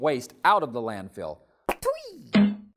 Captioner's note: bonk!